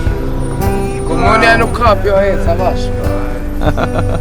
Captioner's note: speaking Albanian; laugh